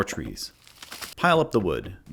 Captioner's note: wood falls